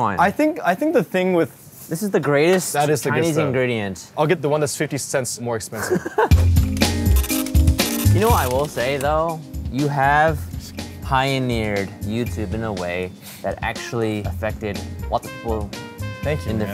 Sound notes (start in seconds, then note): 5.8 laughing; 6.3 upbeat music